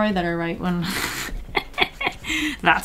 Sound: laughs

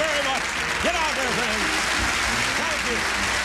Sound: applause

